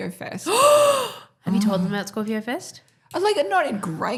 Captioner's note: gasps